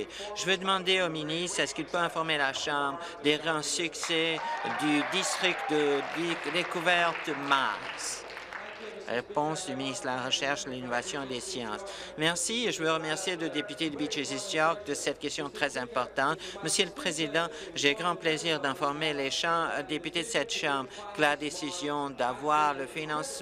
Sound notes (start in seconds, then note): 8.6 applause